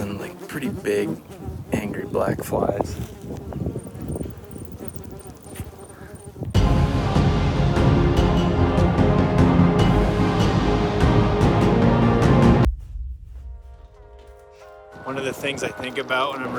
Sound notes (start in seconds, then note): 3.0 insect chirping; 6.7 dramatic music